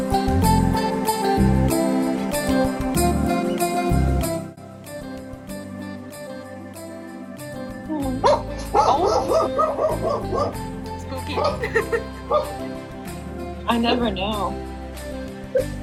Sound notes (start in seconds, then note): 8.2 mr lazlo barking